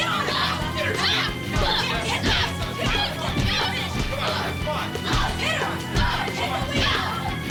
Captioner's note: Teela yelling; Teela shouting